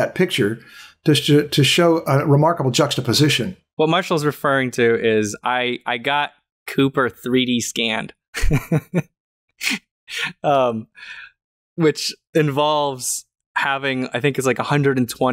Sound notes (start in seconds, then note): 8.3 laughter